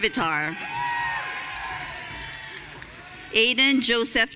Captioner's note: audience cheering